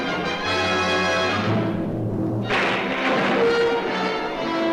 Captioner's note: thunderclaps